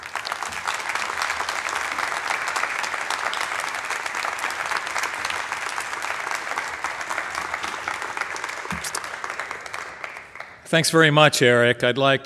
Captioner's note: applause